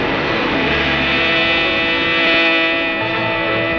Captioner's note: suspenseful music; car buzzing